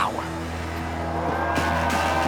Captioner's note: fireworks booming, crowd cheering